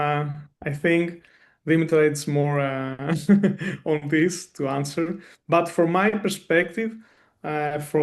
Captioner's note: chuckles